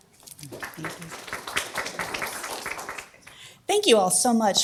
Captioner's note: audience applause